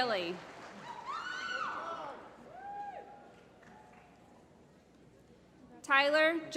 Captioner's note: applause